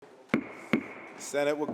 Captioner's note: gavel bangs